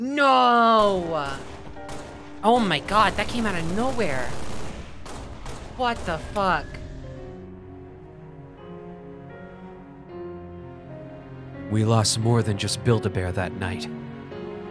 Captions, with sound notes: Noooo. Oh my god, that came outta nowhere. What the fuck. [deeper narrator voice] We lost more than just Build-a-Bear that night.